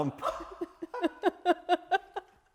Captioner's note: laughter